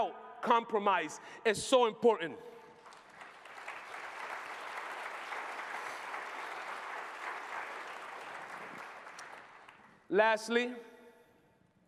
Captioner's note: applause